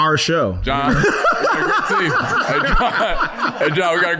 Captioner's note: laughing